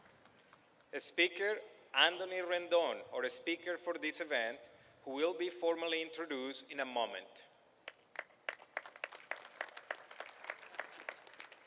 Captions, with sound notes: SPEAKER ANTHONY RENDON OUR SPEAKER WHO WILL BE FORMALLY INTRODUCED IN A MOMENT. [APPLAUSE].